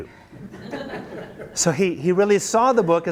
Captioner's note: students laugh